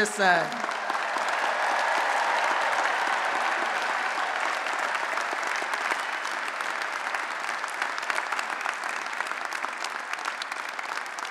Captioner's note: applause and Cheering